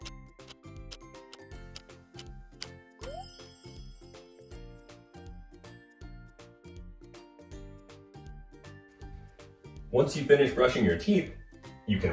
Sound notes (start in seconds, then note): 3.0 alarm ding; 4.2 bright music